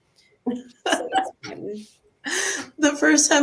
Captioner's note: laughs